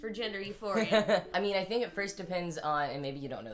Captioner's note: laughs